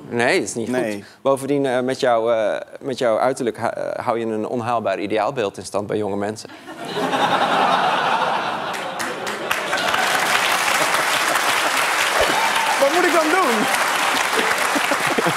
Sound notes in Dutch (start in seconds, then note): 6.5 gelach; 8.6 applaus